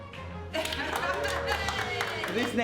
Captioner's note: audience cheers